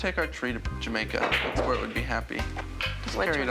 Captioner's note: pool balls clatter